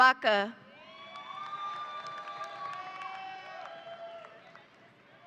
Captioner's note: audience applauding